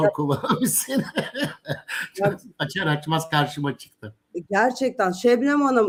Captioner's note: kahkaha